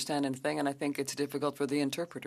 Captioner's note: speaking French